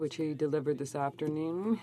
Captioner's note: speaking french